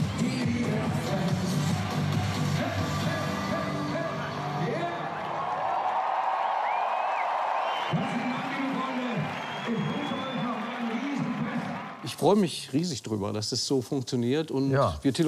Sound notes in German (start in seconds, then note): 1.9 Anfeuernde Laute; 5.8 Applaus, Jubel, Pfiffe